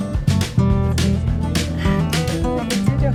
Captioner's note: blocking noise